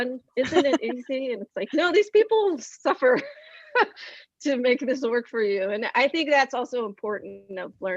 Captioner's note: laughs